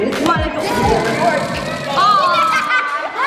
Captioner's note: balloon deflating; laughing